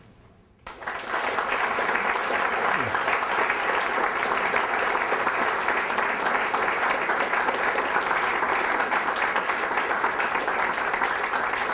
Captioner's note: applause